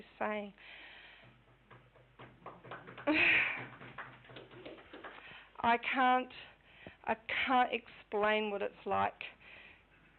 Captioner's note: clapping